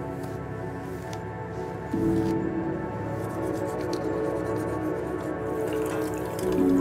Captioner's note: hair brushes; toothbrush brushes; water runs